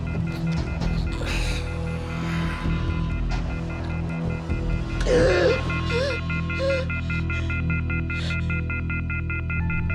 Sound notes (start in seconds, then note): 4.6 phone beeping; 5.0 gasping